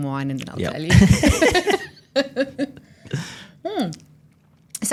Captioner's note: laughing